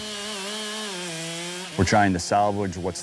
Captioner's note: buzzing of chainsaw